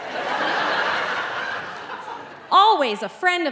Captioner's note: audience laughing